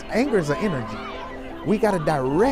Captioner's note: people shouting